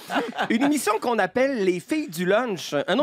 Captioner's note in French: rires